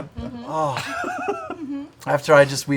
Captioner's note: laughter